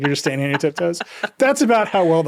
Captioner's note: laughing